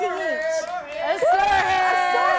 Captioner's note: cheers